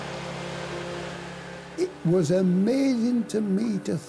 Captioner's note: motor whirring